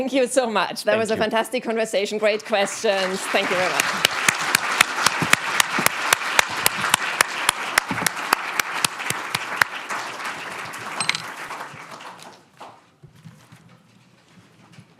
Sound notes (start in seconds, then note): 0.0 guest laughs; 3.9 audience applauding